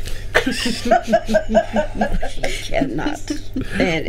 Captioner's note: group laughing